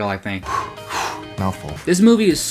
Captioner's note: phew